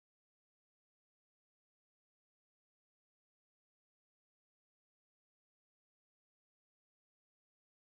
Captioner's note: shouting